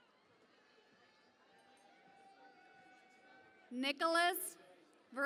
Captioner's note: cheering and Applause